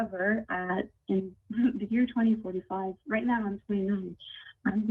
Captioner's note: ~interference~